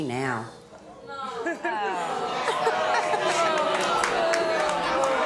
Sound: audience complains

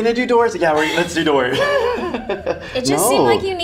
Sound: laughing

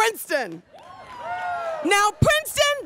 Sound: students cheering

